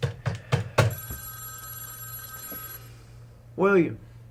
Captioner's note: phone rings